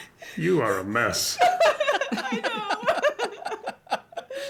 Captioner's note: laughs